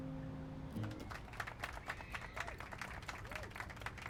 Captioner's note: applauding